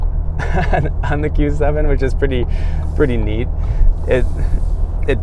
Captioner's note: laughs